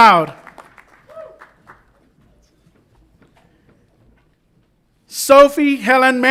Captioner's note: audience applauds and cheers